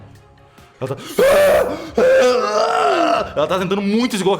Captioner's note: aaaah aaaaah